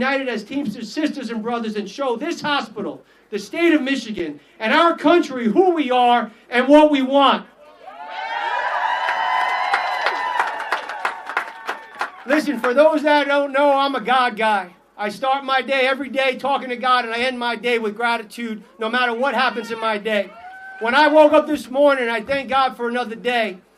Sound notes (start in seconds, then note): 11.7 applause